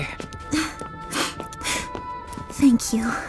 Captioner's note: laughs; sniffles